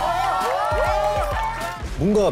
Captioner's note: cheering